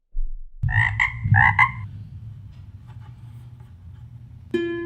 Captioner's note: frog croaking